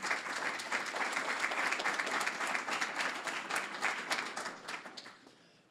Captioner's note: applause